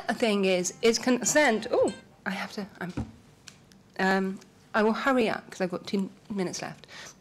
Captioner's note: timer chimes